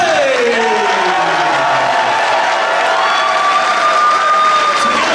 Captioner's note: audience cheering